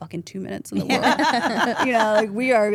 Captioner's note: woman laughing